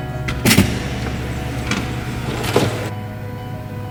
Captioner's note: light music; door opening